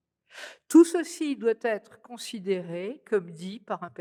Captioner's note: speaking french